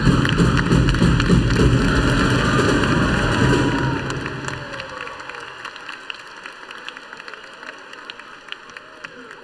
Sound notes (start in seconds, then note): 3.1 applause